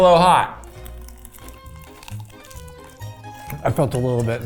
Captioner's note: both crunching; upbeat music